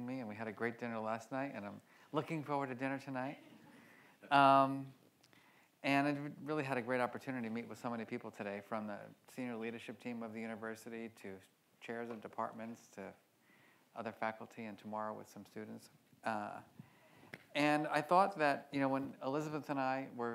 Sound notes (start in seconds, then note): 3.7 audience laughs